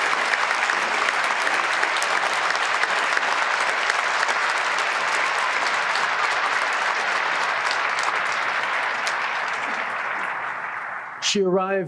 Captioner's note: applause